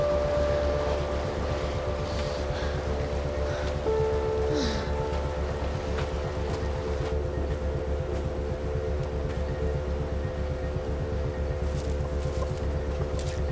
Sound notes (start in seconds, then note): 3.1 panting